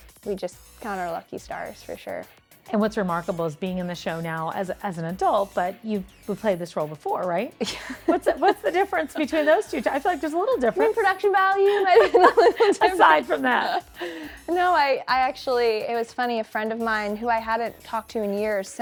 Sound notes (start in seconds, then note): 12.5 laughs